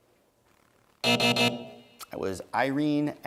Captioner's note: buzzing